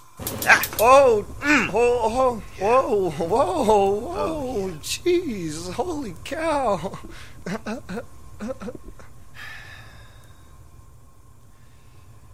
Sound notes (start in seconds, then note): 9.4 sighing